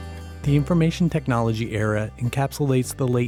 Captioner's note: voiceover